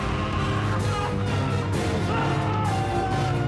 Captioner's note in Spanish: gritos; sollozos